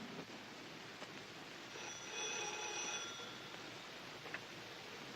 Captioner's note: telephone Rings